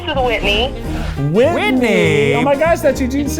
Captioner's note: in Unison